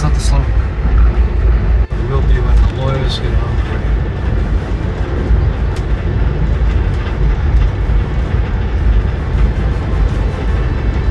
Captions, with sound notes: - That's not the song. - It will be when the lawyers get here. (train rumbling)